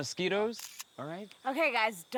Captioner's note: shutter snapping